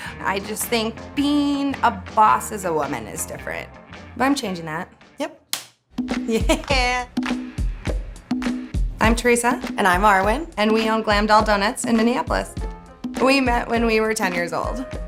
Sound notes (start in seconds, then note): 5.7 laughs; 7.0 upbeat percussive music